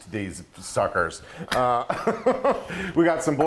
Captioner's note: laughing